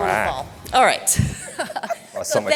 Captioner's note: chuckling